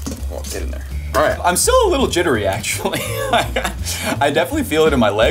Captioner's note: chuckles